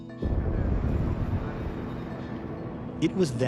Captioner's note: pondering music; rocket engines firing